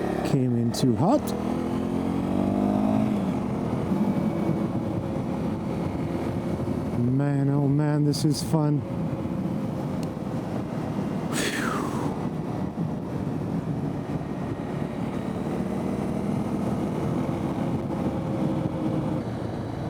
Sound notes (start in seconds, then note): 11.3 exhales